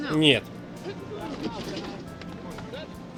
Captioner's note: chatter